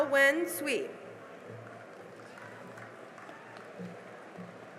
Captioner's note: cheering and applause